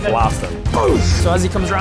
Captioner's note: boosh!